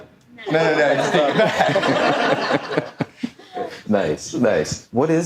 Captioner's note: audience laughing